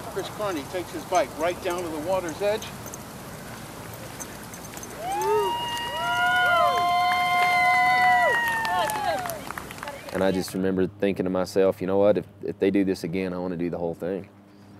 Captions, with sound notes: Chris Carney takes his bike right down to the water's edge. [CHEERING] And I just remembered thinking to myself, you know what, if they do this again I want to do the whole thing.